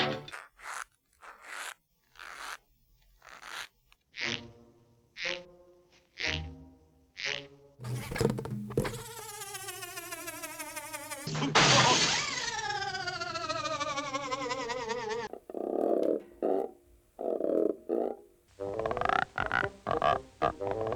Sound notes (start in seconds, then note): 0.2 soft creaking; 3.2 creaking; 7.8 winding-down sound; 15.2 croaking; 18.4 croaking musically